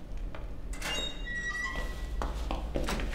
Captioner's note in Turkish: Kapı açılma sesi; Kapı gıcırtısı sesi